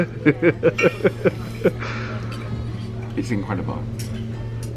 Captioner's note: chuckles